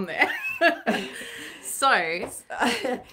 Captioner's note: chuckling